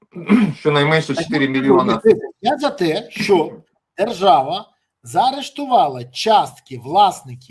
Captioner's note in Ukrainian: прочищення горла